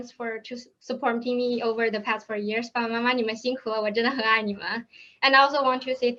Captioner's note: speaks in Chinese